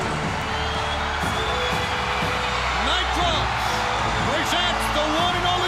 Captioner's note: crowd cheering